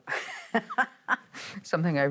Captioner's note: laughing